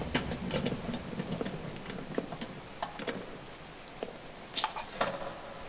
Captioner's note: metaI rattIing, footsteps approaching